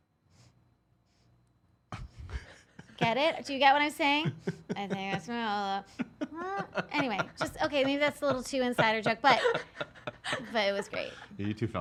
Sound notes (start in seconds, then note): 0.3 sniffing; 5.9 sniffs